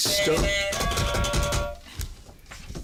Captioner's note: buzzer